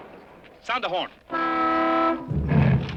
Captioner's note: horn honks